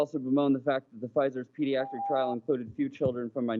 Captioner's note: chime